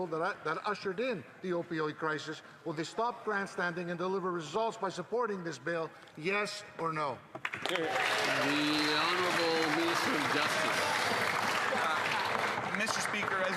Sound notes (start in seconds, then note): 11.3 some Applause